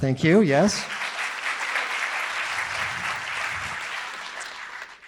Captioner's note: audience applauding